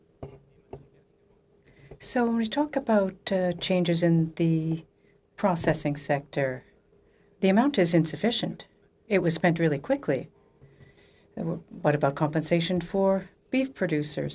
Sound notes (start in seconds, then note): 5.1 speaking French